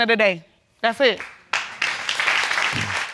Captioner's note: applause